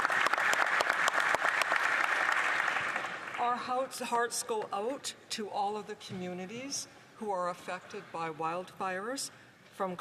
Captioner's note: applause